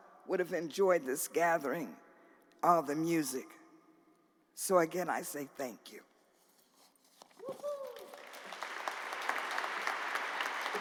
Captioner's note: applause